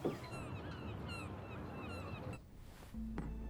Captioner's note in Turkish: Martı sesleri